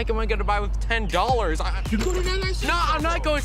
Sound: stammers

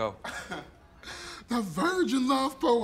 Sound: laughs

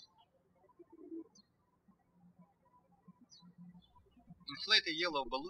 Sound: birds chirping

